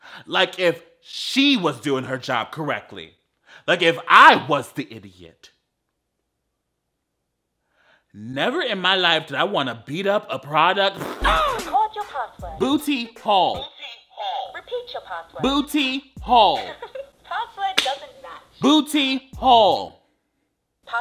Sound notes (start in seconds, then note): 11.2 boy grunts; 16.5 laughs